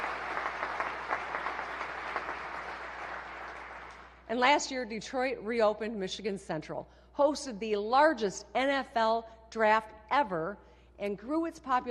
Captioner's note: applause